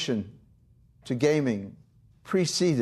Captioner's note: none